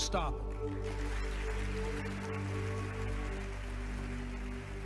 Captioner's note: audience clapping